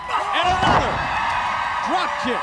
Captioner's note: crowd cheering